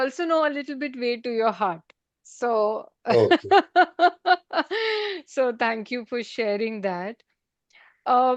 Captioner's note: laughter